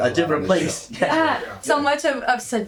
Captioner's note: chuckles